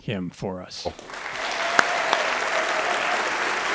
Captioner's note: audience applause